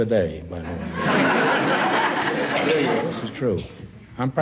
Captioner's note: audience laughs